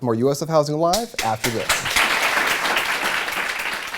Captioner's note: applause